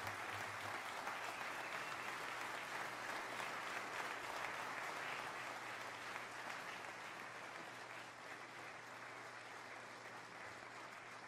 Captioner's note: applause